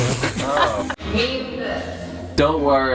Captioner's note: echoing